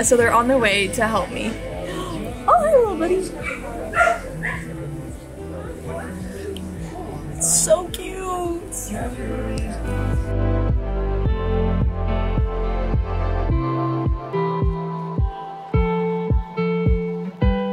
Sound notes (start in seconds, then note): 3.4 dog barking; 10.0 soft beat music